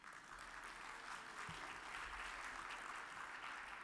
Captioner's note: audience applauds